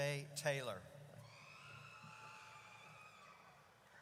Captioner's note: audience cheers